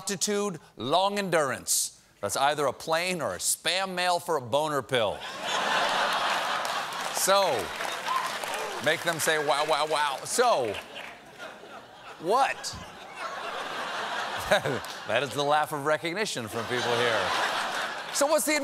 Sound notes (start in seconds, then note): 5.2 laughter; 10.6 laughter